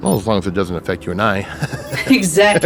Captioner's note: laughs